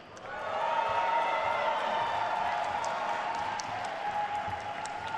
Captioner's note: attendees cheering and applauding